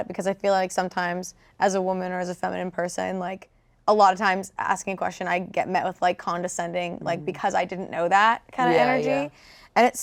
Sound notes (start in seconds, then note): none